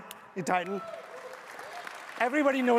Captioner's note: audience applauds